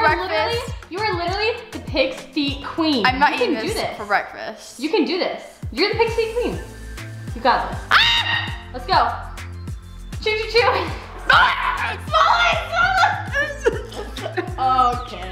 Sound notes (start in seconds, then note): 7.9 screams; 13.3 gags